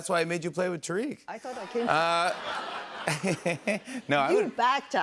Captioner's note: laughter